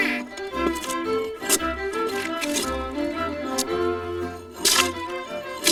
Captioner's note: tool scraping